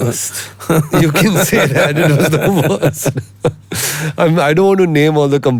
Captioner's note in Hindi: हंसी